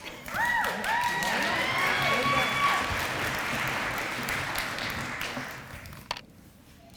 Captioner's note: applause